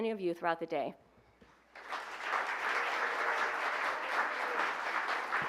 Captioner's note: applause